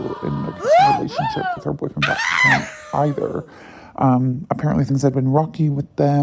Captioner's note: gasping